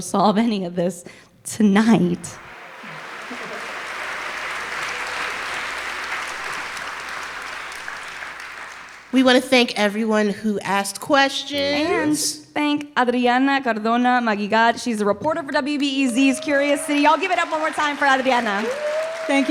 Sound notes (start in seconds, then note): 2.3 applause